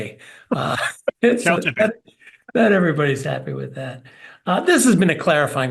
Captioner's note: laugh